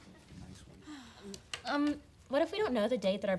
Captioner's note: student sighs